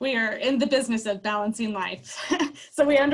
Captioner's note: laughter